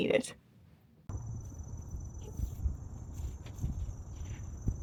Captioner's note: knitting sounds, birdsong, and wind blowing through trees